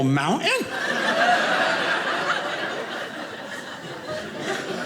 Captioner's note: audience laughing